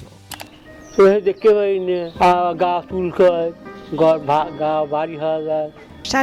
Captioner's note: speaking in foreign language